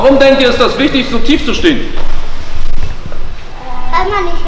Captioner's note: repeats in German; answers in German